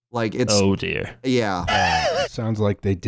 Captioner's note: laughs